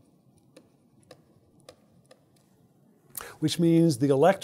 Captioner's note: stylus tapping against screen